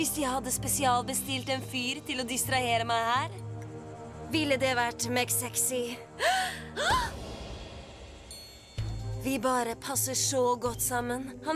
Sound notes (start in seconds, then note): 6.2 gasps